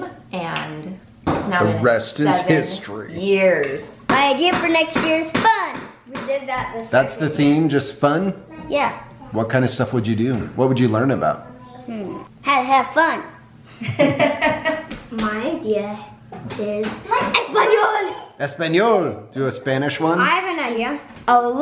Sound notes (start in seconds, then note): 13.7 parents laughing; 16.1 speaking in foreign language